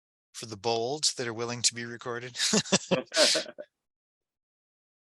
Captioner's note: laughs